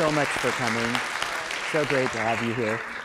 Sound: applause

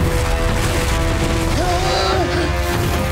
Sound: he grunts

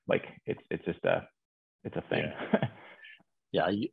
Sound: laughs

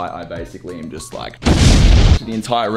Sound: explosion

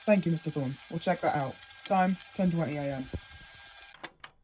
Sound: the tape ends and ejects

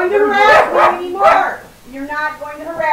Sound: yelling, dogs barking

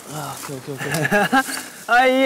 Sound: haha

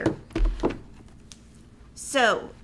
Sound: wood clanking

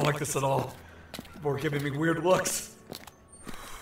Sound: pointed exhale

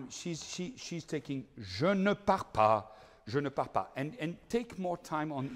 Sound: speaking in foreign language

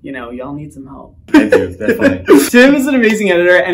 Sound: laughs

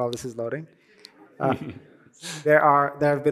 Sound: laughter

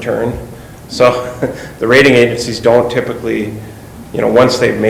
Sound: laughs

